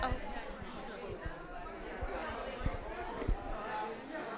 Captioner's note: group chattering